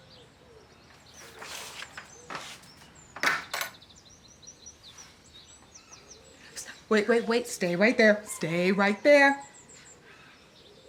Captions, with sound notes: [latch clicking] St-- Wait, wait, wait. Stay right there. Stay right there.